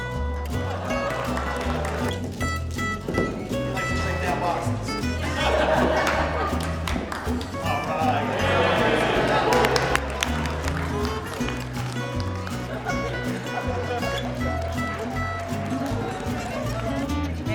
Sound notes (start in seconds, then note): 0.0 laughter and applause; 5.0 laughter; 9.4 cheers and applause; 12.2 laughter